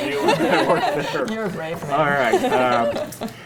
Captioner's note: laughs